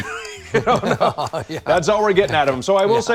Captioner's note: both laugh